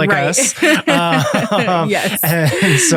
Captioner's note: both laughing